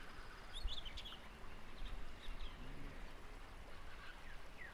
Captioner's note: birds chirping